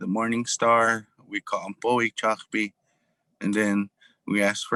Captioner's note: speaking in foreign language